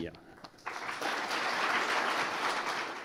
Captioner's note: applause